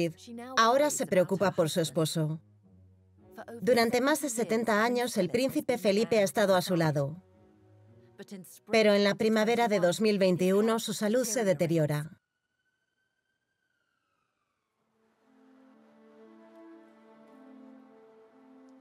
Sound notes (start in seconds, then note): 12.2 siren wailing; 14.8 slow music